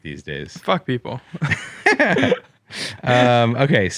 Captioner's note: both laugh